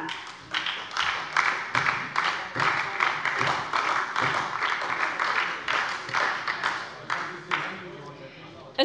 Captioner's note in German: Beifall bei der SPD